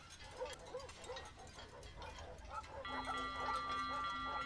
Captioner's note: dogs barking